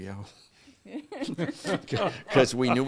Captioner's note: all laughing